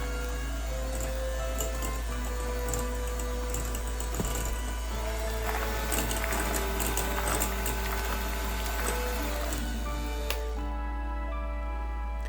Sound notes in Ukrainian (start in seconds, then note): 5.2 оплески